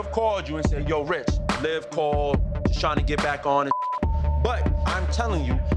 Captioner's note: beep